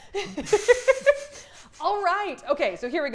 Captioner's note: laughs loudly